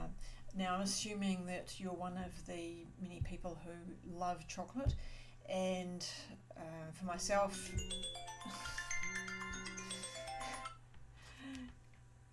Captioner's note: phone ringing